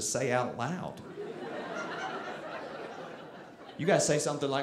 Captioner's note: audience laughing